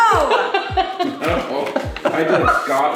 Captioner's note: laughing